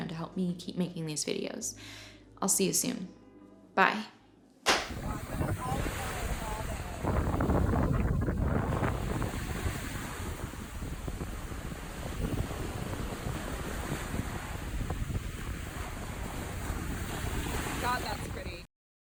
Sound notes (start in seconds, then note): 4.6 claps hands; 8.2 waves hitting beach; 8.2 wind blowing